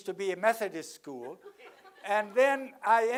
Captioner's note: laugh